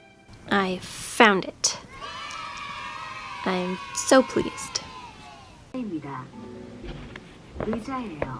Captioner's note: kids cheering sound effect; korean language playing over music